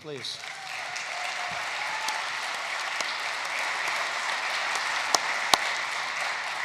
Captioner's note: applause